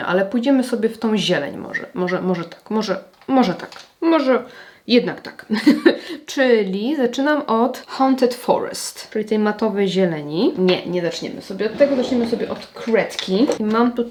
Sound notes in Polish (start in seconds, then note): 5.5 śmiech